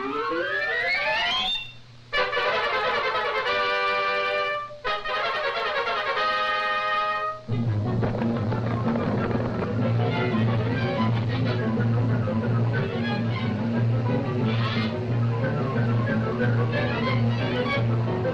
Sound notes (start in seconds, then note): 2.4 triumphant music; 7.7 light dramatic music; 7.7 wings rustling